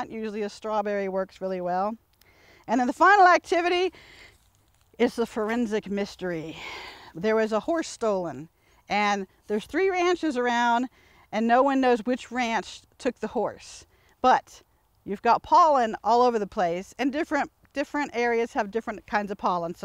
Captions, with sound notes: usually a strawberry works really well. And then the final activity (inhales deeply) is the forensic mystery (exhales heavily) There was a horse stolen, and there's three ranches around, and no one knows which ranch took the horse, but you've got pollen all over the place, and different areas have different kinds of pollen.